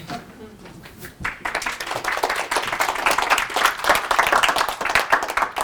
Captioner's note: applause